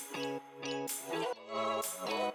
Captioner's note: none